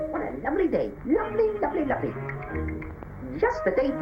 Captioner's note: chattering